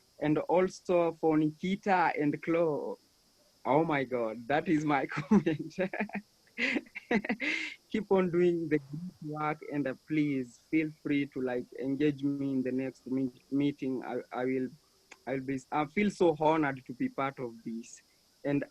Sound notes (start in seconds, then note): 6.6 laughs